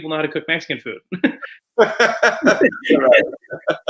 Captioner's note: laughs